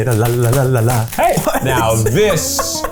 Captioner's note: laughs